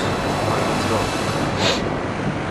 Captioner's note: sniff